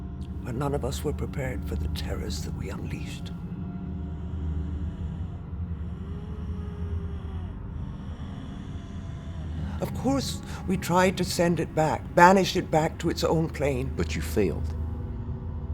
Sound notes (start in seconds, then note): 3.8 looming music; 3.8 low growling